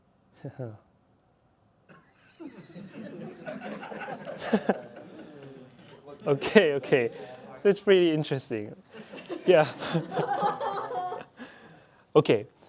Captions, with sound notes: [LAUGHTER] OK, OK. That's really interesting.